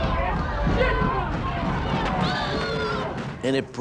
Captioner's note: protesters shouting, pounding; pounding loudens